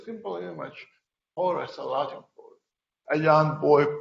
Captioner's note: speaking quietly